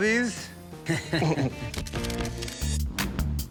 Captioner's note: both chuckling